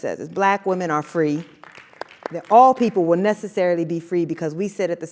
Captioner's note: applause